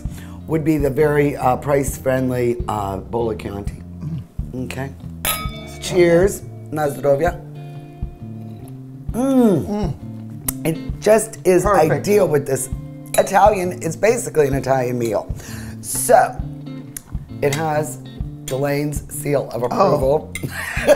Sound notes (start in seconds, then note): 5.2 glasses clink; 6.8 speaks in a foreign language; 10.3 moans; 20.4 chuckles